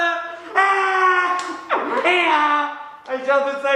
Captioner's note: Bottom cackles